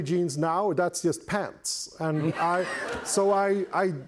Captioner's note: laughter